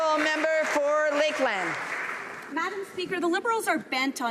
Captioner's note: applause